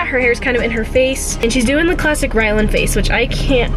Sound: none

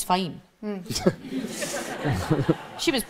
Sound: audience laughs

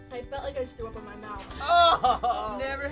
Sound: groaning

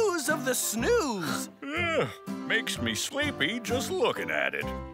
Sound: yawning

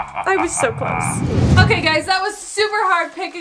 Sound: air whooshes

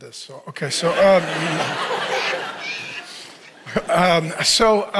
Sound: audience laughs

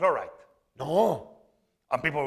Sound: speaking spanish

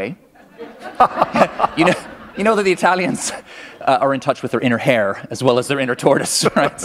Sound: laughter

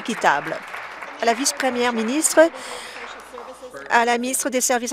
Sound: applause

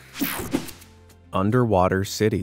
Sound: screen whooshing

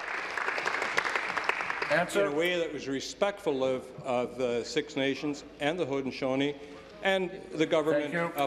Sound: applause

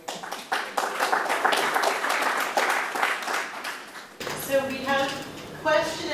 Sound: applause

